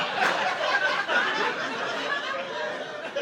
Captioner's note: audience laughing